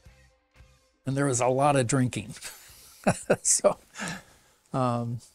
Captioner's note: laughs